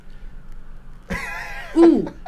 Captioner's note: chuckles